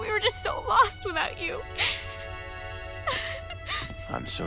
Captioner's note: crying